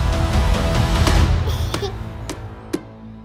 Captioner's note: alien giggles